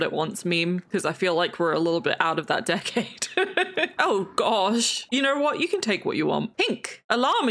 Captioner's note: laughs